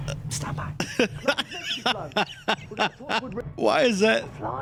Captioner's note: laughing